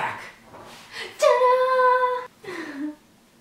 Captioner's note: vocalizes; laughs